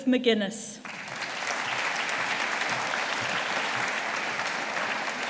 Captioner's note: audience applauding